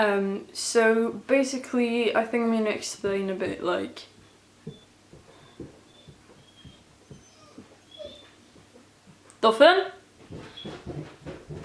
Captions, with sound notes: So basically I think I'm gonna explain it a bit like.. [dog cries] Doffen?